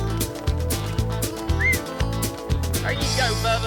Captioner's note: whistles